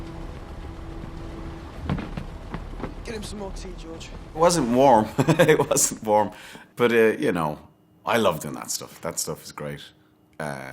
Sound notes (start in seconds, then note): 2.0 footsteps thuds; 5.0 laughs